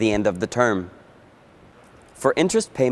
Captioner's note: voiceover